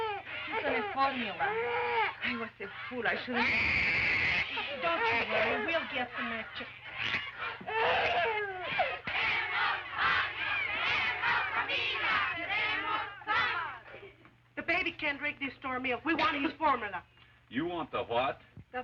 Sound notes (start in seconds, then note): 3.0 baby screams; 9.0 women and children chanting